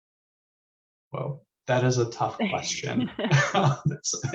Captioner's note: chuckles